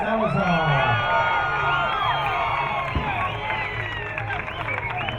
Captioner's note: crowd cheering